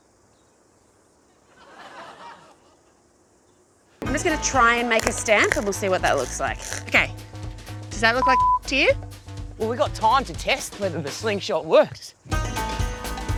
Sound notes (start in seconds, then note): 1.4 laughter